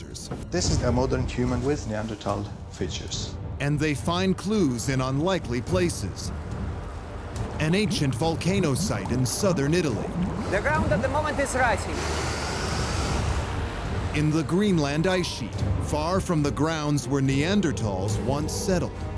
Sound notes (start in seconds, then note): 12.7 wind howling